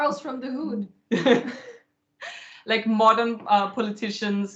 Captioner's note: laughter